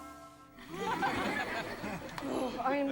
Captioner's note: audience laughs